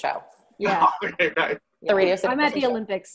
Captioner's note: laughing